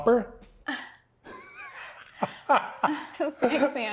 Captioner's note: laughing